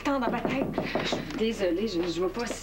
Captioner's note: On cogne à la porte